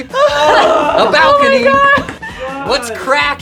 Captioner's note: laughing